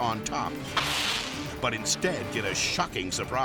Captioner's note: electricity zapping